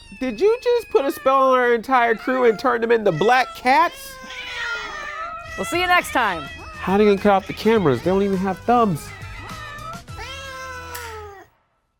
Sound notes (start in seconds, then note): 10.3 meow